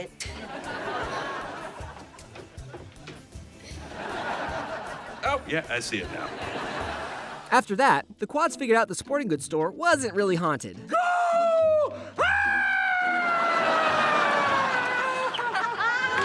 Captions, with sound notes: Oh, yeah, I see it. After that, the Quads figured out the sporting goods store wasn't really haunted. [screaming] [laughing]